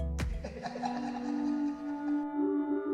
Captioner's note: evil laughter